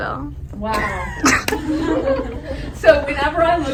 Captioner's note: laughter